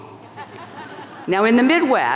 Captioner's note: audience laughing